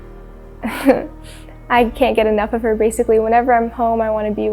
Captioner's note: chuckles